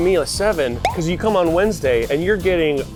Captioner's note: label beeping